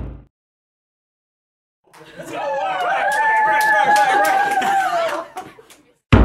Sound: thump; cheers, laughter; thump

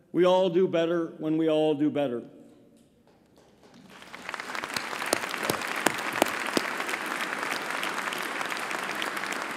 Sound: applause

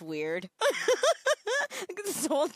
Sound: laughing

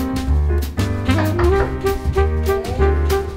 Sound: knock knock

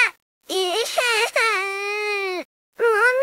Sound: crying

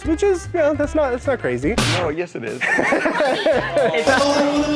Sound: laughter

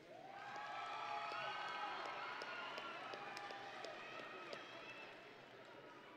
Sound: audience and graduates cheering

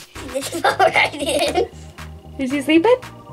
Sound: laughing

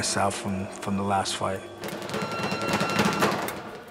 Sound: electronic bell rings

